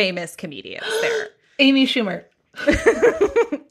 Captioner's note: gasps